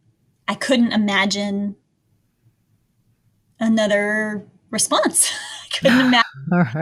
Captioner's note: laughs